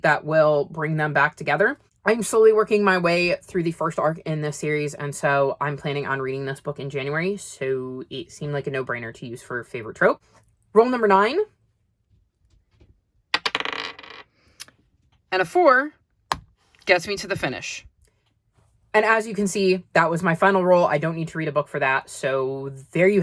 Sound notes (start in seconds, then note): 13.3 sound of dye landing on the desk; 15.9 sound of tapping as the kitty moves